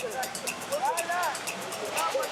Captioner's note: Portuguese spoken audio